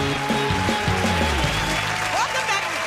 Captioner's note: cheers and applause